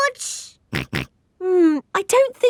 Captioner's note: snorts